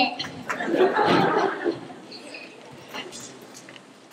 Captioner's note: laughter